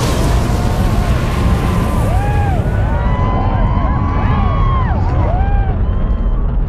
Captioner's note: engines firing; spectators cheering